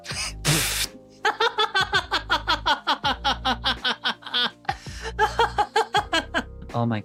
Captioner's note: laughing